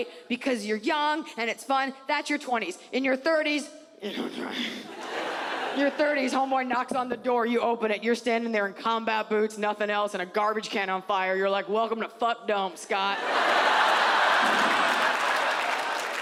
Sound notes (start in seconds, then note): 3.7 Iliza grunts; 4.9 audience laughs; 13.2 audience laughs